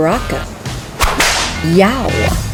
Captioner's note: whip Crack